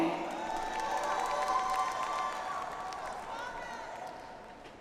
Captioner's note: audience applauds